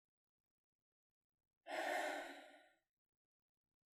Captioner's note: sigh